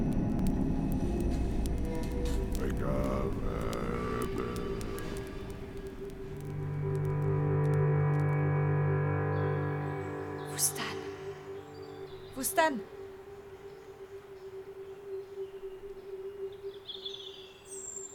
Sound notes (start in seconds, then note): 3.3 incantations